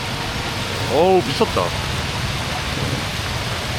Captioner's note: the rain getting heavier and heavier